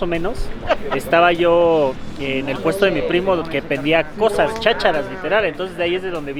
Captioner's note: Chacharas in Spanish